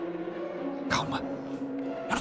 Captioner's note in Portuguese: sussurra